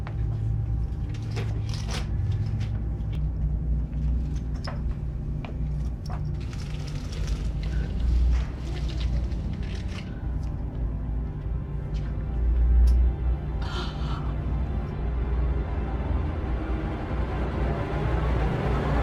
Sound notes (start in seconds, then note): 13.6 gasping; 16.1 dramatic music